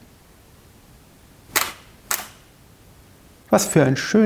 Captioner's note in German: Kameraauslöser